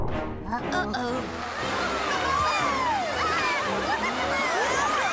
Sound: shouting

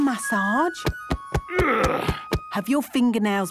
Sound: thumping; moaning

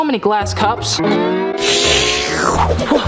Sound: long slurping noise

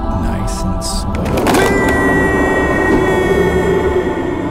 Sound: yells

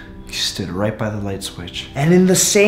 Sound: sigh

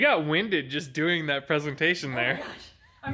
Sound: laughs

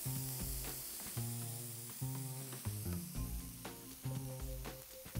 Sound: steak sizzling

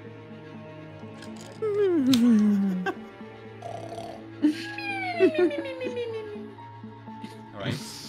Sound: yawning and snoring

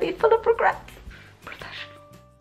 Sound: whispered

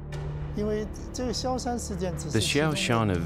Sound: speaking mandarin

